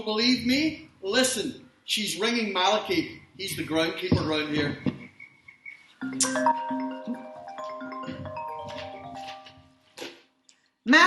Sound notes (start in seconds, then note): 4.9 🎵 crickets 🎵; 6.0 🎵 ringtone 🎵